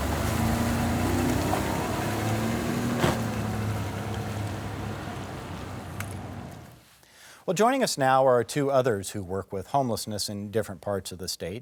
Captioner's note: engine starting